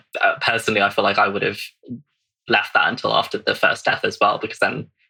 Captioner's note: laughs